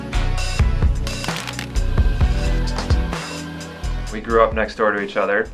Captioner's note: plastic tapping